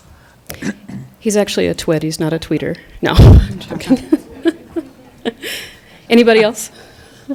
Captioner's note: laughs